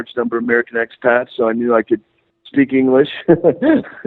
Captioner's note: laughing